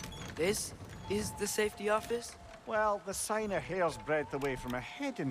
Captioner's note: none